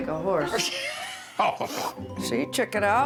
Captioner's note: laughter